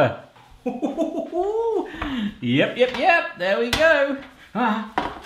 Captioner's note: laughing